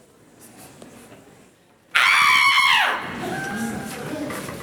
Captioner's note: scream